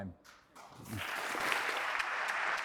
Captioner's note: audience applauding